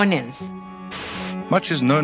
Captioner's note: static buzzing